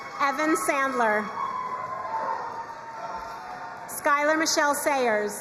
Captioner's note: crowd cheering and applauding